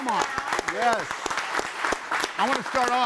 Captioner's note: audience applauds